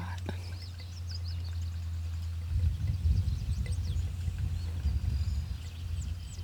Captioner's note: birds chirping